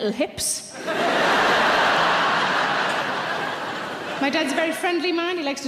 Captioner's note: audience laughs